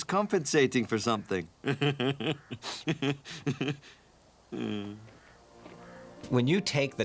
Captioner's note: laughing, Sighing